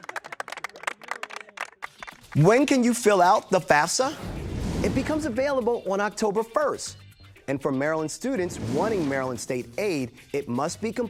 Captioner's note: applause